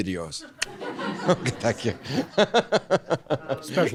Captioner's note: audience laughs; laughs